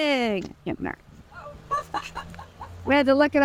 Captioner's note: laughing